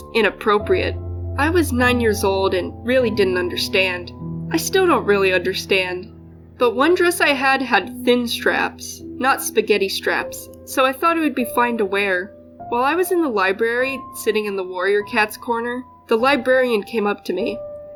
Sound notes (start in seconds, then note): none